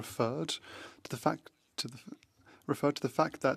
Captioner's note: speaking French